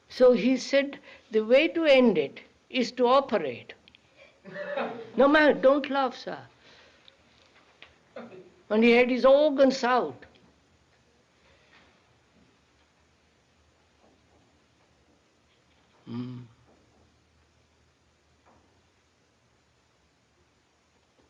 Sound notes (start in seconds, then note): 6.2 laughter